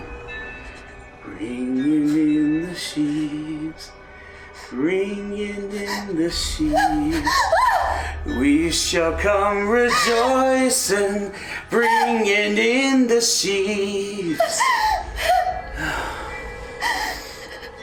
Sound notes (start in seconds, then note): 6.7 shocked terror; 13.6 crying